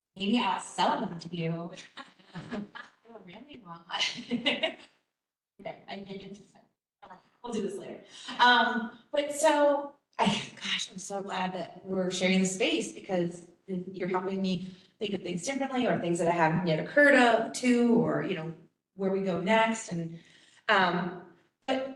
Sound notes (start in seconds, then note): 4.0 laughter